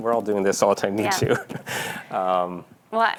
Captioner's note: laughing